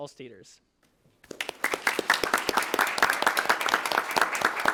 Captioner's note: attendees applauding